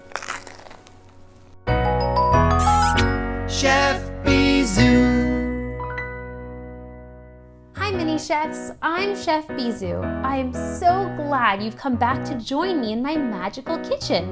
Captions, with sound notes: [lively music playing] [kiss sound] Chef Bisous Hi Mini Chefs. I'm Chef Bisous. I'm so glad you've come back to join me in my magical kitchen.